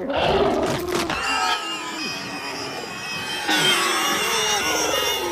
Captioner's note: multiple shrieks